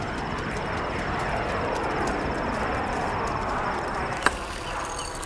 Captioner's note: airplane engine whirring